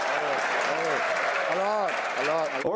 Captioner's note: some Applause